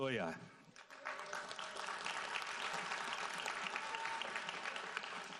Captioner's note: audience applauds